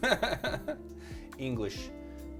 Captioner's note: chuckling